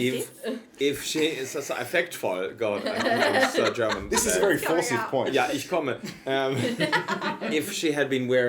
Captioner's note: in GermEnglish